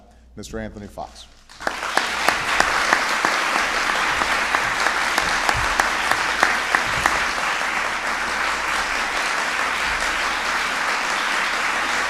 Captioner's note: applause